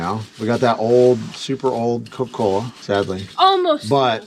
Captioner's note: none